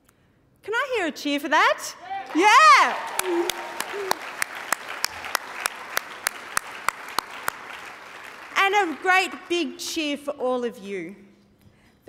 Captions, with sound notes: Can I hear a cheer for that?! (CHEERING AND APPLAUSE) Yeah! And a great big cheer for all of you,